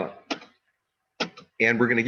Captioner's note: keyboard clicking